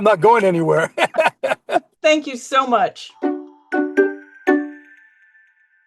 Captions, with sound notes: not going anywhere. (both laugh) - Thank you so much. (bright music)